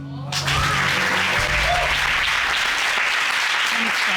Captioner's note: applause